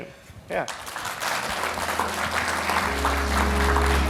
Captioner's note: applause; instrumental music plays